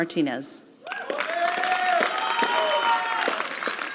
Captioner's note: applause